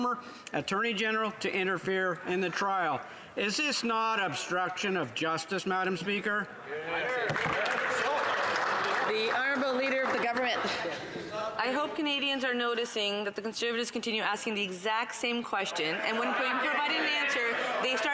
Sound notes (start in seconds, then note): 10.0 some Applause